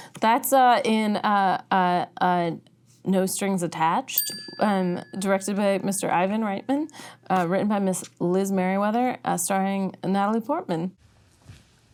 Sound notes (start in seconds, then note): 4.1 bell ringing